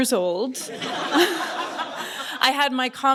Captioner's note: laughter